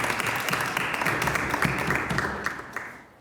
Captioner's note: some Applause